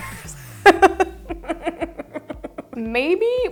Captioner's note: nervously laughs